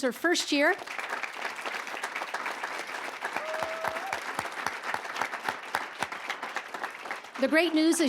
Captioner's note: applause